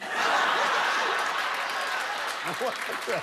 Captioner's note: laughter